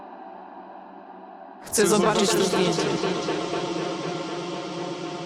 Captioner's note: distorted female voice